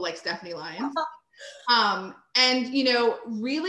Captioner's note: chuckles